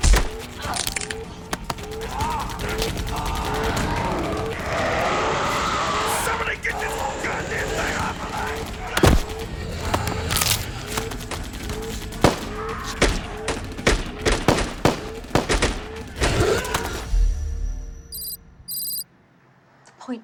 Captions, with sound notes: (body crackling) (vampire growling) - Somebody get this goddamned thing off of me! (body crackling) (gunfire pops)